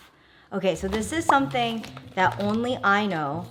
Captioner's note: bubble pops